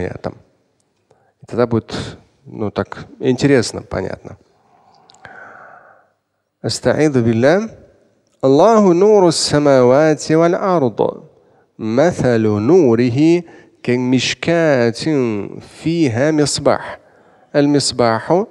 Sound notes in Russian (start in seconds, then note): 4.4 Говорит на арабском